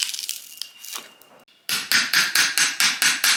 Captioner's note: more bark tearing